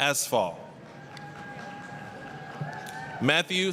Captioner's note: applause, cheering